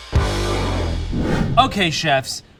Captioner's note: upbeat music; air whooshing